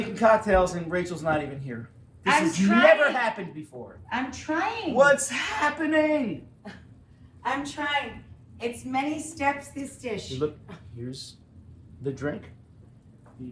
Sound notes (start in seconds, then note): none